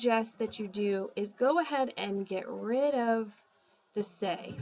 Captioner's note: spanish